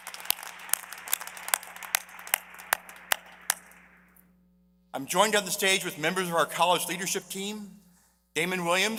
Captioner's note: applause